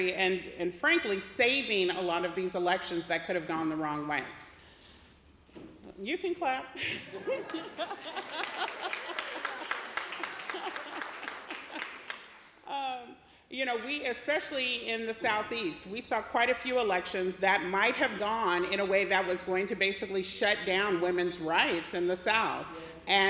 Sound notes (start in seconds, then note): 6.9 laughs; 7.4 applause